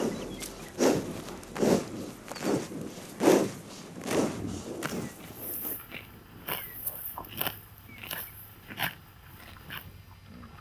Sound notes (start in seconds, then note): 0.3 munching sound; 6.2 munching sound